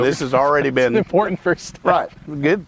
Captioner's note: laughs